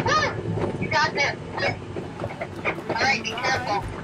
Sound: over the walkie-talkie

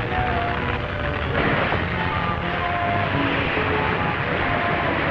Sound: glass shattering

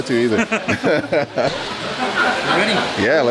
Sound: both laugh

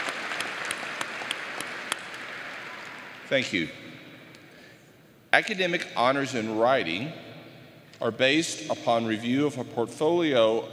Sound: applause

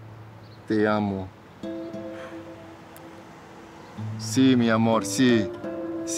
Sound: Alejandro speaking Spanish

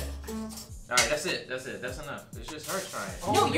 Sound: none

